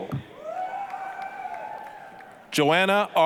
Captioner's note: applause, cheering